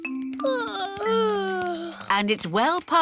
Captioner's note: yawning